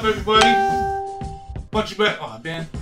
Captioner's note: cellphone beeps